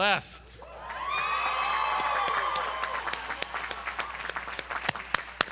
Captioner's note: audience applauds and cheers